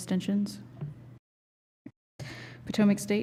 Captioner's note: silence